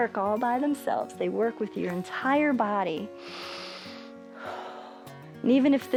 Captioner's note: inhales and exhales